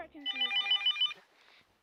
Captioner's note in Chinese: 電話鈴聲